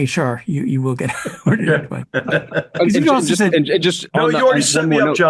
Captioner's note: all chuckling